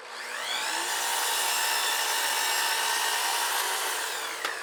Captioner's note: saw whirring